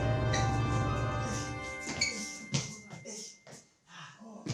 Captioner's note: groans; sighs